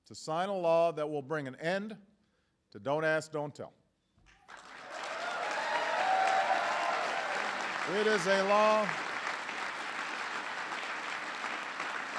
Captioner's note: applause